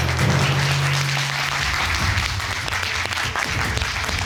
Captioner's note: courtroom applauding